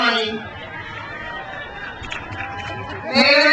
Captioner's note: crowd cheers